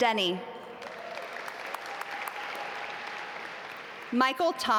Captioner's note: audience applaud